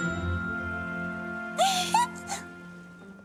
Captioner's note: squeak